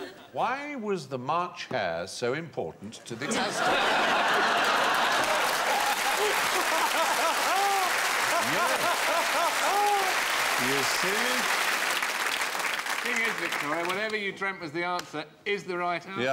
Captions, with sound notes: Why was the March hare so important to the Aztecs? [laughter, applause] Y'see? Thing is, Victoria, whatever you dreamt was the answer IS the right answer.